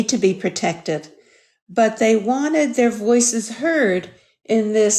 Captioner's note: none